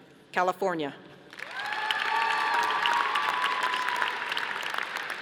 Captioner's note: audience applauding